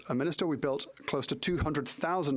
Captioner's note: speaking French